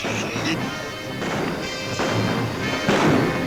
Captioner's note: guns bang